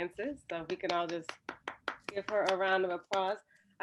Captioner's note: clapping